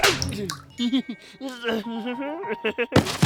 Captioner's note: laughs nervously